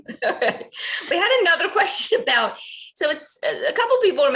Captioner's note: laughs